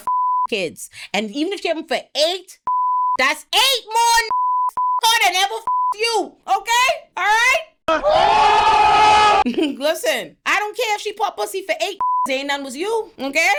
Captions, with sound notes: (beep) kids, and even if she have them for eight, that's eight more (beep) car than ever (beep) you, okay? All right? (screaming) Listen, I don't care if she put pussy for eight (beep) Zaina was you, okay?